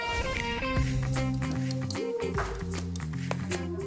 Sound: whisking

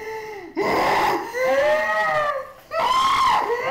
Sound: woman screams

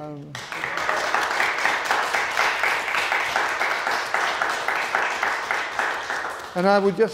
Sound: audience applauding; musicians applauding

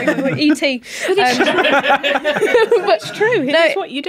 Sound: bewildered laughter

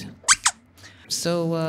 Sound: squeaks squeaking

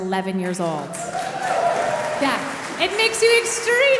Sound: audience cheering

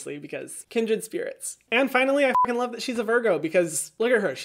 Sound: beep

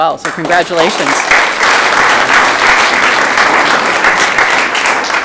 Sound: audience clapping

